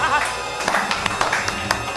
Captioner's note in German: Applaus